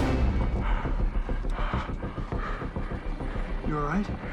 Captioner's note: Andy panting